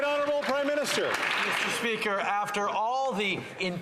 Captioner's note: some Applause